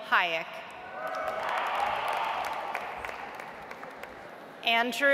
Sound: audience applauds

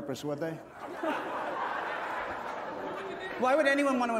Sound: laughter

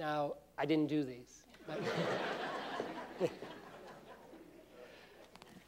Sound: laughter

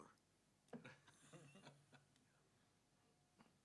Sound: laughter

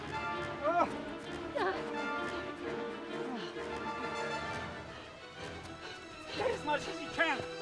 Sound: gasping

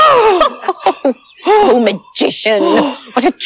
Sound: laughing

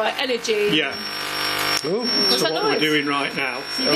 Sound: loud beeping

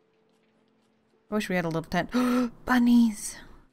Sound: gasp

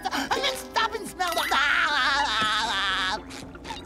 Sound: laughing

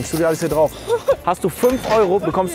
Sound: laughs

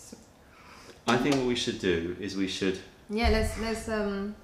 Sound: sips tea

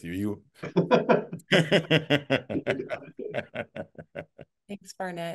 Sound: laughter

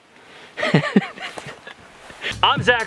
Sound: laughing

